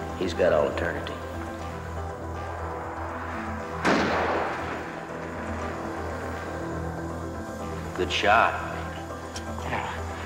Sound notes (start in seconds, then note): 3.8 gun firing